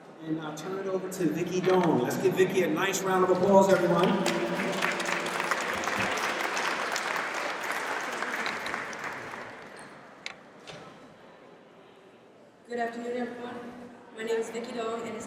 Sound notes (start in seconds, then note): 3.6 audience applauds